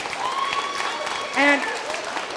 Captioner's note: cheers & clapping